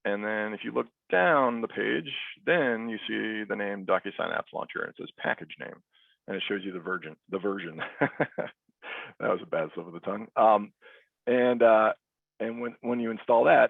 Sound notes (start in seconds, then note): 7.7 chuckles